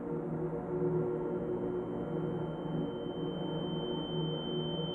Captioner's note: high-pitch ringing